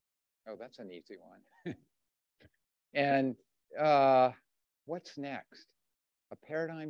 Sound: chuckles

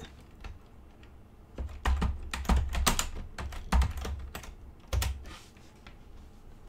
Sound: keyboard sounds

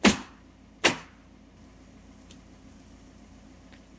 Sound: nail gun bangs

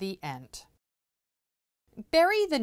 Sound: no Sound Present

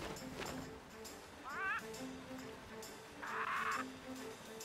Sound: chirping

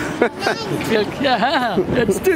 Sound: little baby talking

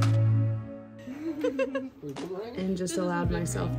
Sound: laughing

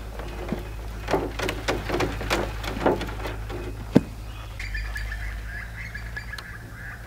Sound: sifter thuds; birds chirp

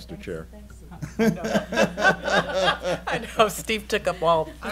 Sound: laughing

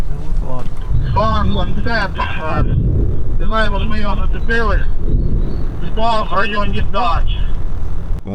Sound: drone

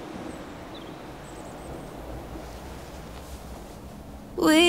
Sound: rain pouring; birds chirping; soft music

